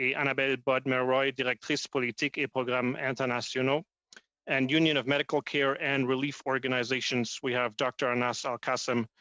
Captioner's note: speaking French